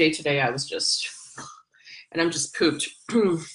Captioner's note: sighs